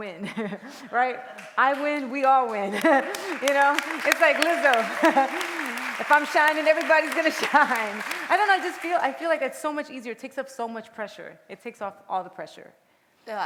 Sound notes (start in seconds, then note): 2.8 applause